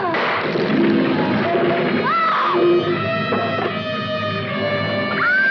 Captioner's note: screams